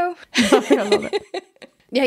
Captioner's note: laughing